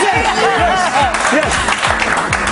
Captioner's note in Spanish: risas